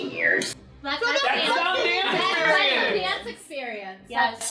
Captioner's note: all screaming